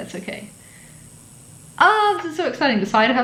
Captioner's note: buzzing